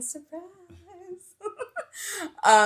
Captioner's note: laughs